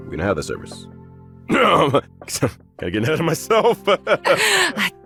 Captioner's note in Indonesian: Ehem